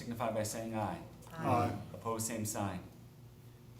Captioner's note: chorus of ayes